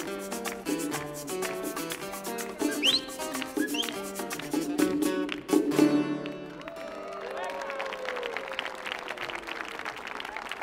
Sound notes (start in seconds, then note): 6.8 audience clapping